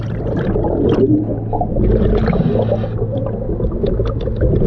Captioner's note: water gurgling